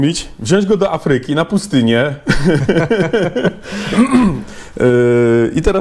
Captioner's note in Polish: śmiech